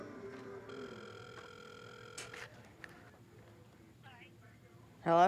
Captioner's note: ringing